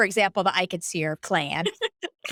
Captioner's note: laughing